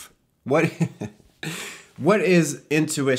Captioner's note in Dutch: lacht